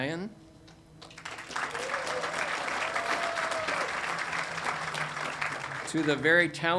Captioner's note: audience applauding and cheering